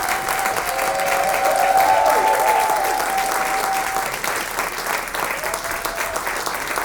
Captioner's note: audience cheers and applauds